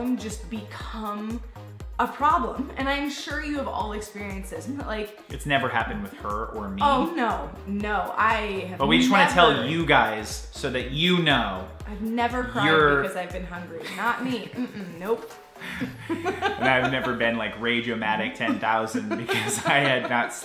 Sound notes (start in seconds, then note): 15.7 laughting